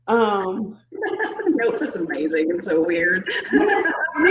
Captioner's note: laughing